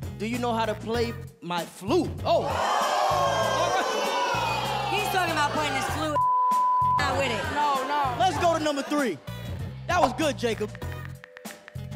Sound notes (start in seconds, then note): 3.0 audience groans